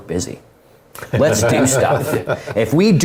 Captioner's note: laugh